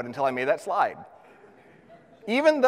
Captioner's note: audience laughs